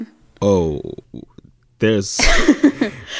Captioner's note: laughter